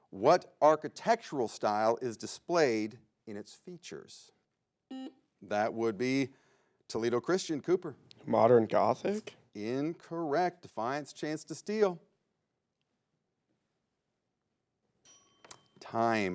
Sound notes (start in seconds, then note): 5.3 buzzer beeps; 15.0 bell rings